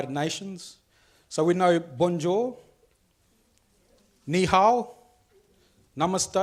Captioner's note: speaks foreign languages